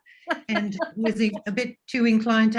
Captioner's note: laughs